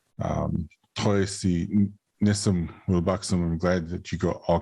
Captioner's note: speaking in foreign language